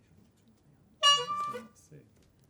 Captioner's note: honk